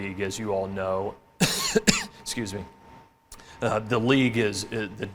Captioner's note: coughs